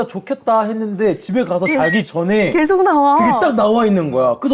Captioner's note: agreeing